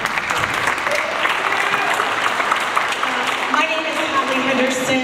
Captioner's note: audience applauds